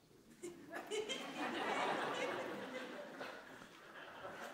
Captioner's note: laughter